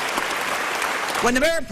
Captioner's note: applause